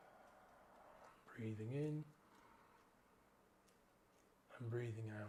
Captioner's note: gently inhales